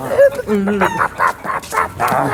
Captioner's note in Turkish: horoz kavgası sesleri